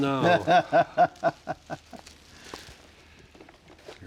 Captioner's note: laughs